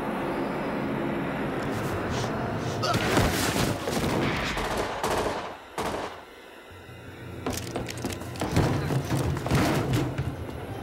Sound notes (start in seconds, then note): 4.0 gunfire